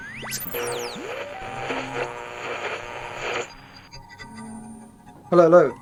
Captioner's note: radio tones beeping